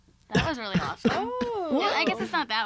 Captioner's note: laughs